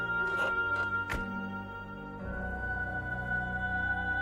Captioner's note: car door closes